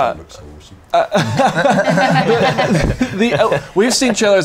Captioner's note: laughter